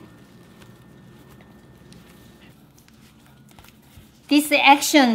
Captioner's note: soft kneading sounds